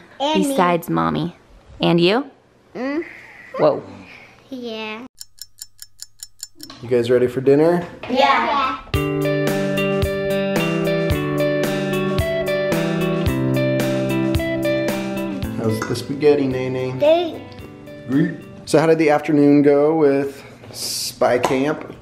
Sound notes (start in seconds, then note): 5.1 clock ticking; 9.0 happy music